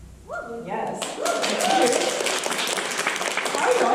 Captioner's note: applause